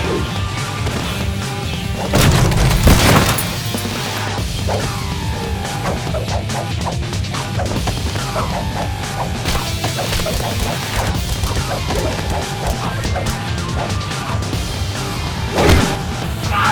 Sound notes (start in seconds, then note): 0.1 air whooshing; 2.1 foot thuds; 5.7 pole whooshing; 9.9 blows thudding; 12.7 upbeat techno music continues